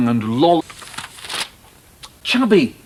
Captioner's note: Michael flips through book pages